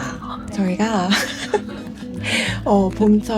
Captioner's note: laughter